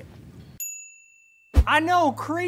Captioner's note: bell chimes